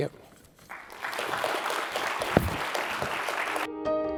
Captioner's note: applause